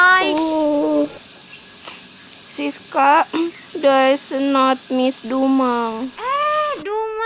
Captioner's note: sob